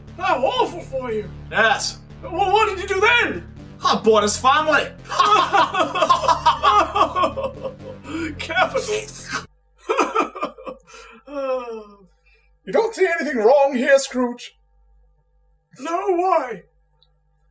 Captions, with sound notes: How awful for you! Yes! Well, what did you do then? I bought his family! [Obnoxious laughter] Capital! [Scrooge chuckles] You don't see anything wrong here, Scrooge? No, why?